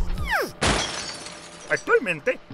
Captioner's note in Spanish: suena un cristal que se rompe